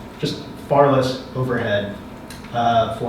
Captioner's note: none